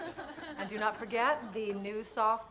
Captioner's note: laughter